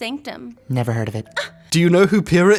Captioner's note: Weiss scoffs